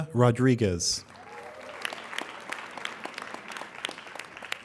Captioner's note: applauding